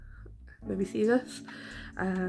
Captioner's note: none